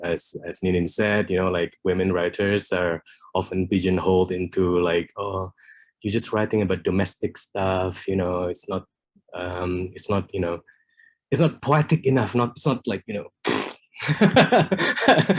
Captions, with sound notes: As Ninin said, women writers are often pigeonholed into, "You’re just writing about domestic stuff." It’s not poetic enough, it’s not (MIMICS EXPLOSION)